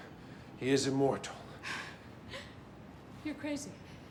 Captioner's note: Karen chuckles